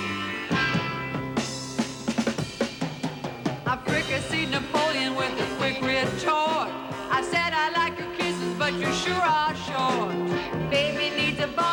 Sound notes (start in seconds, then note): none